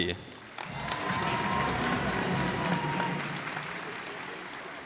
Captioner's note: cheers and applause